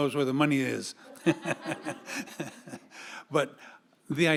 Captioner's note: audience laughing